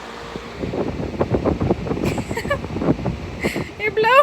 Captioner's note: fan blowing